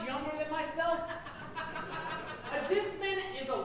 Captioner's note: audience laughing